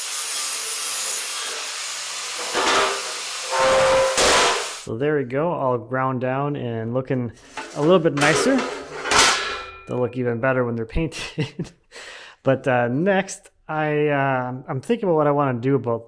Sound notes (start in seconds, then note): 2.4 metal clanking; 7.4 metal clanking; 11.2 chuckles